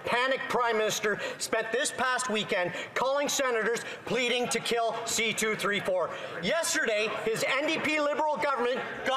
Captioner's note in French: voix de l'interprète